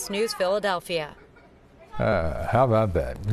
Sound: laughter

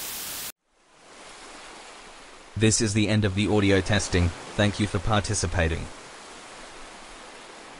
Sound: sound of ocean waves lapping on the beach; sound of ocean waves lapping on the beach

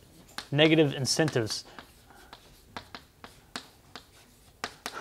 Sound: chalkboard writing

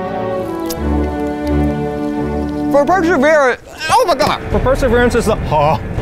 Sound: crunching

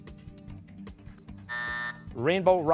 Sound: buzzer

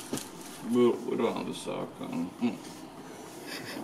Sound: laughs

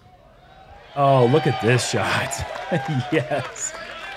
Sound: laughs

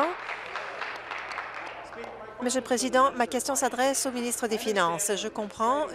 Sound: applause

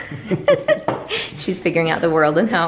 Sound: laughing

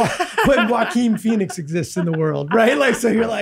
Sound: laughs

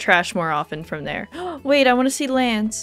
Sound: gasp

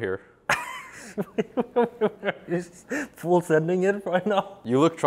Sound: laughs

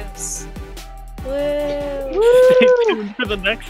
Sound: wooooo!

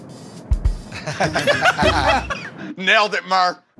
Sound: laughter

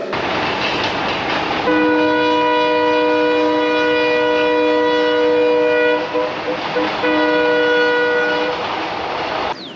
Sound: train sound

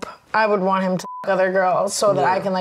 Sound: beep

